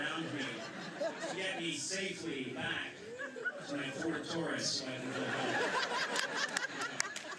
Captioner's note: laughter